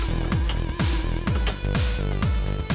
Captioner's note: clicks